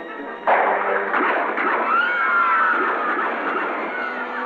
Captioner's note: dramatic music; gunshots; screaming